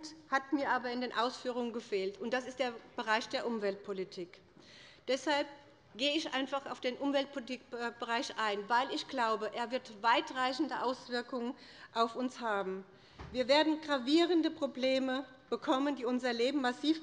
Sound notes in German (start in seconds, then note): none